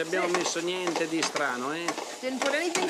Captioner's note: speaking Italian